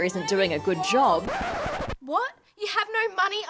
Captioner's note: record scratch